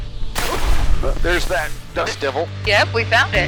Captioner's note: gust of wind and static